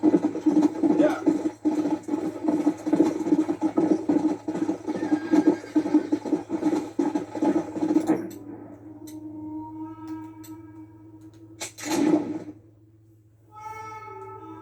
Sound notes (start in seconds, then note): 2.1 sounds of galloping horses and people; 3.8 birds singing and horses screaming